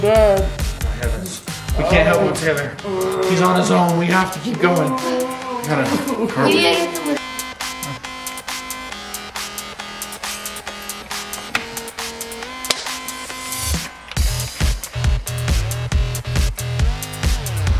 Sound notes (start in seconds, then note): 7.3 techno music; 13.2 opening soda bottle